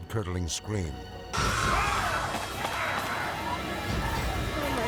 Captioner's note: screaming